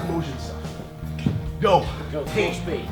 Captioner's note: rustling sound